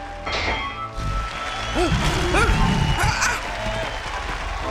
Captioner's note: ਸ਼ੇਰ ਗਰਜਦਾ